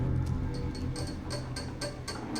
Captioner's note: fingernails tapping nervously